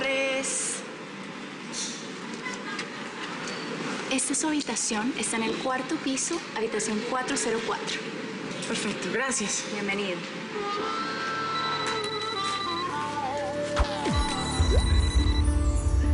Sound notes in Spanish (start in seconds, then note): 10.8 Suena el celular